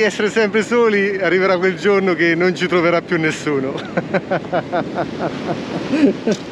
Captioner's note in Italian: Risate